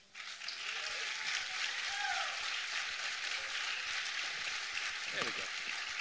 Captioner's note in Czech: potlesk